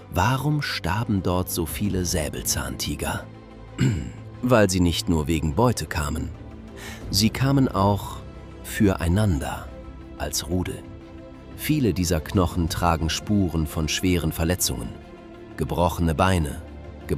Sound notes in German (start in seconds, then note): 3.7 räuspern